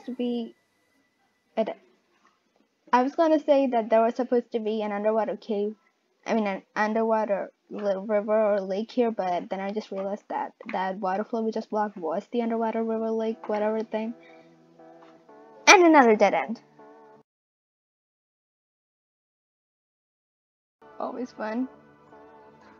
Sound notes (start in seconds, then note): 21.4 happily